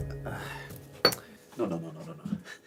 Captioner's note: Dawit groans